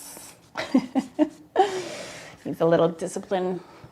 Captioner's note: laughs